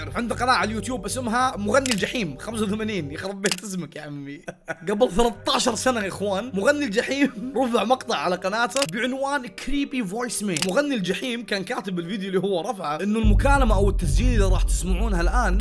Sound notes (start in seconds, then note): 4.4 laughs